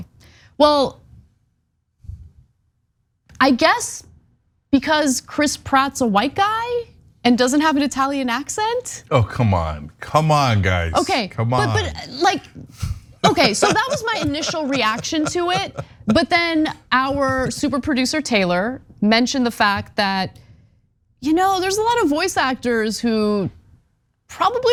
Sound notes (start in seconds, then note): 13.2 laugh